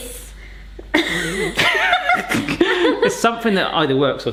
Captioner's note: both laughing